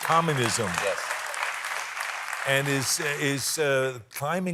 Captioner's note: applause